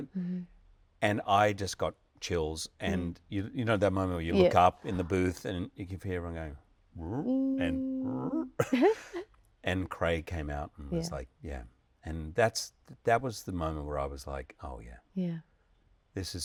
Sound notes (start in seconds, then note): 7.0 imitating comic sounds